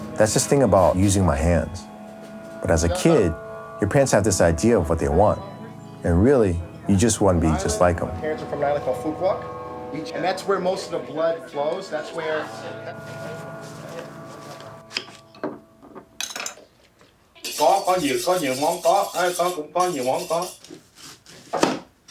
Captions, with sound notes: That's this thing about using my hands. But as a kid, your parents have this idea of what they want. And really you just want to be just like them. My parents are from the Island of Phú Quốc and that's where most of the blood flows, that's where... (gentle music) (utensils clanking) (speaking in a foreign language)